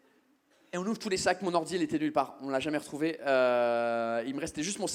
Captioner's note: none